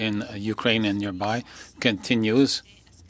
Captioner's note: speaking French